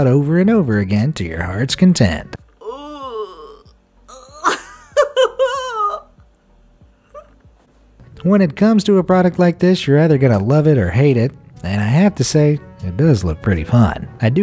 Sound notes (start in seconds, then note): 4.1 woman laughs